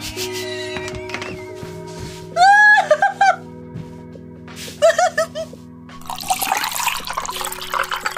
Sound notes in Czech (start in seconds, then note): 0.2 Smích; 6.0 zvuk tekoucí vody